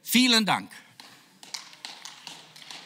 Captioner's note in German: Beifall